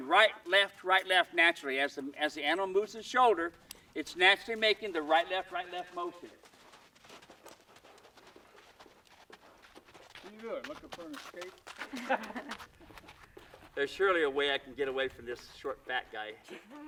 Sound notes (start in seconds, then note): 11.7 laughing; 16.4 giggling